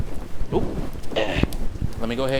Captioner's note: old man grunts